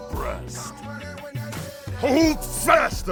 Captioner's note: growls